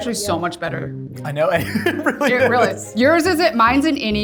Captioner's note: laughs